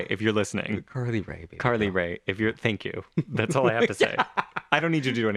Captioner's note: laugh